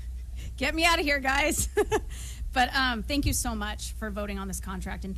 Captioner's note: laughter